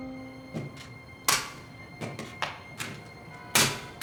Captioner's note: stapler clanging